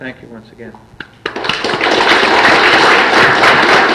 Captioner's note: loud applause